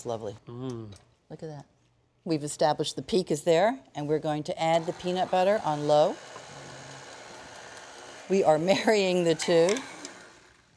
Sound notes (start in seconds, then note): 4.6 mixer whirring